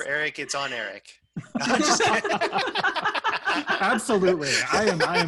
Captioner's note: laughter